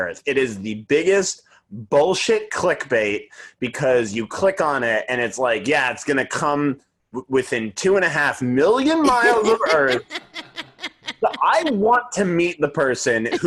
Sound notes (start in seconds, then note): 8.9 laughing